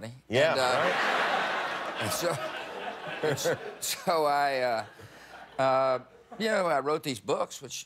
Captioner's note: laughter